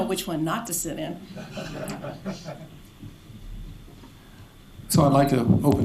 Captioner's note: laughter